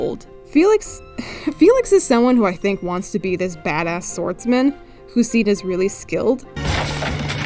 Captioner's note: laughs